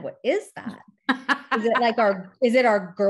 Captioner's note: chuckles